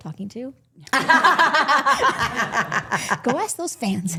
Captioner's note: women laughing